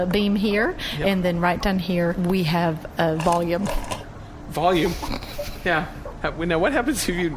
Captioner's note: laughter